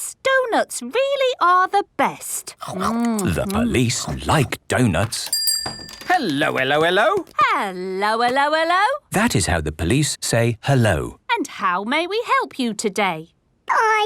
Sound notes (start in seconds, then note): 5.2 bell rings